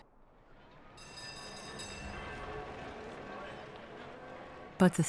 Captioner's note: bell ringing